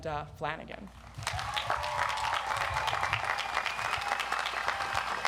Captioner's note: audience applauds